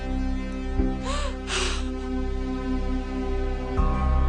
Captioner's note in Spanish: Sollozos